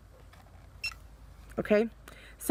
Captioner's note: button beeps